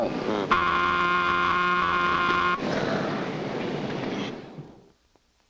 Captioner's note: work whistle blares